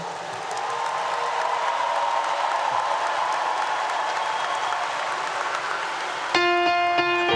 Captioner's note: applause 👏 👏